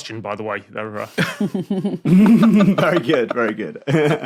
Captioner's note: guests snickering